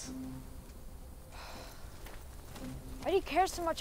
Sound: sighing

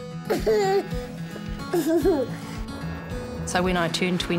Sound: child giggling

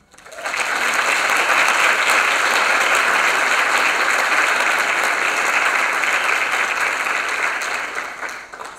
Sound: applause

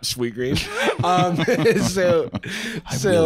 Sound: laughing

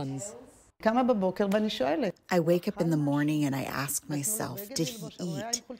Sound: through translator

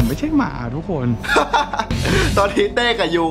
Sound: laughs

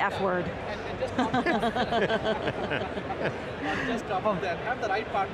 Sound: group chuckling

